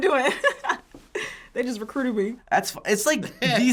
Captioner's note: laughs